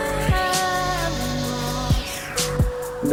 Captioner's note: buzzzz